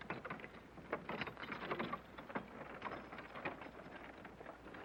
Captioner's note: wagon creaking